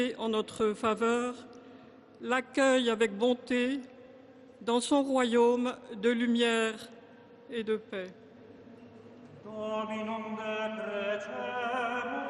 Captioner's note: speaking French